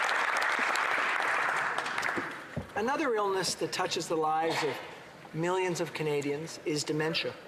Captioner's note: applause